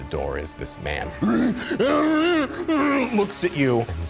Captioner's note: grunting